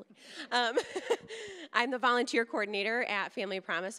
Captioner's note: laughing